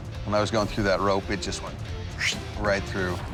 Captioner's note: imitates swishing